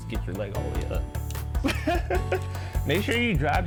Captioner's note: laughs